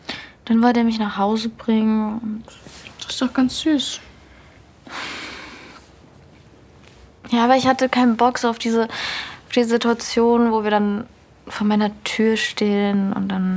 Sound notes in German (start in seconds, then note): 4.9 Seufzen